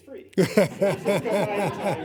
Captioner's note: laughing